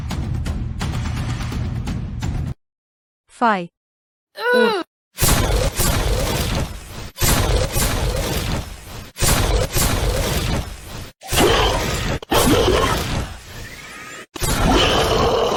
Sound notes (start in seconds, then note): 5.4 volley of Gun Fire; 11.3 monsters Roaring